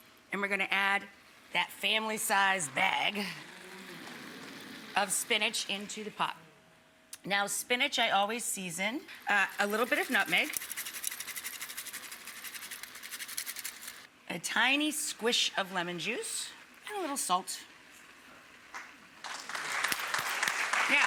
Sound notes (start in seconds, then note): 9.5 grater scraping; 19.2 audience applauds